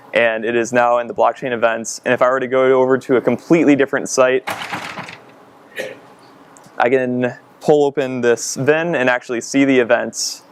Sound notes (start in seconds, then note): 4.4 rattling; 5.7 coughing